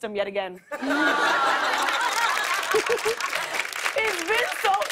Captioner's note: laughter and applause